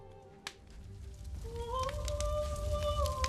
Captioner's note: fire crackling